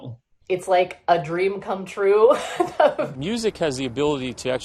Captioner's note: laughs